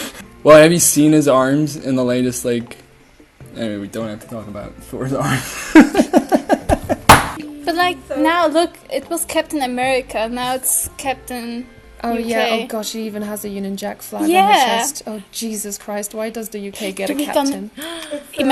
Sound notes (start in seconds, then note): 7.0 slams table